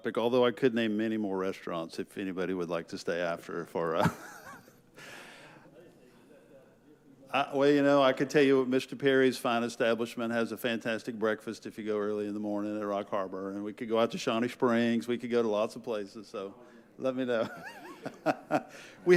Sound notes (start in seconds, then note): 3.9 chuckles; 5.6 faintly speaking; 17.4 laughs